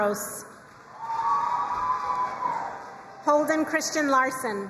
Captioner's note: crowd cheering and applauding